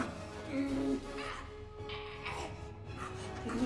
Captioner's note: chokes